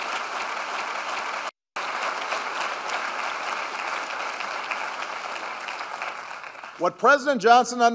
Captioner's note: applause